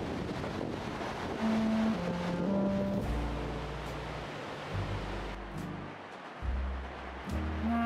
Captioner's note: typhoon sounds and music